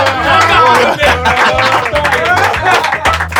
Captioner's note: palmas